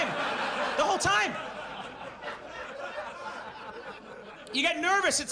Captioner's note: audience laughs